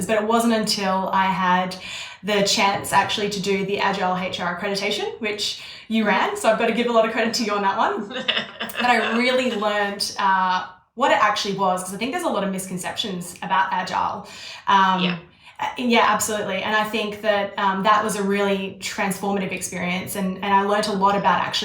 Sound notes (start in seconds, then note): 8.0 laughing